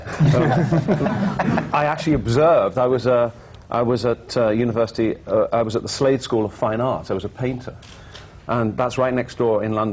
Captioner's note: laughter